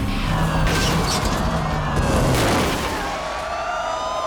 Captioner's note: sirens